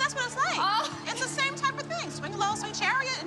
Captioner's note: laughter